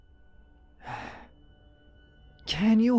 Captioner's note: sad sigh